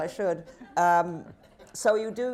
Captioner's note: laughter